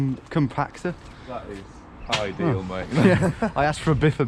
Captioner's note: both laugh